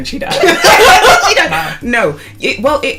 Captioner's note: laughter